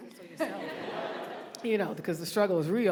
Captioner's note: audience laughing